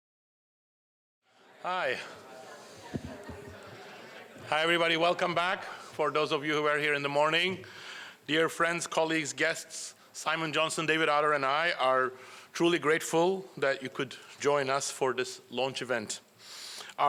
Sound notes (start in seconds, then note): 1.3 background chatter